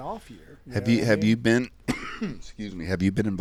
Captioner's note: coughs